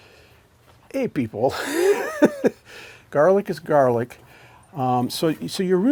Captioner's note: laughs